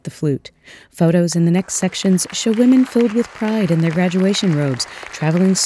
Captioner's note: applause